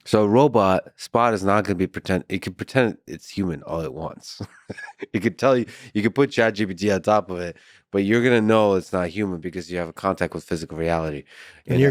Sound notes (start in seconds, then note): 4.3 Lex laughs